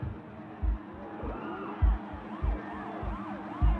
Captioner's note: siren wails